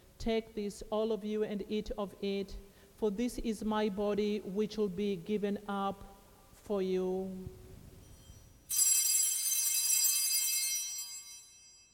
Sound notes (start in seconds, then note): 8.0 bells ringing